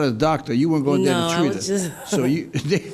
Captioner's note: laughs